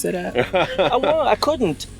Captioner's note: laughing